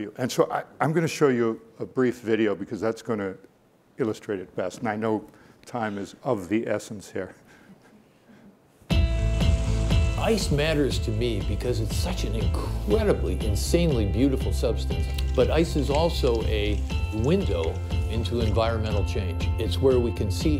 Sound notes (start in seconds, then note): 9.6 upbeat music; 15.0 cracking